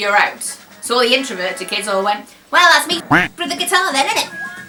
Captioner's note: duck noise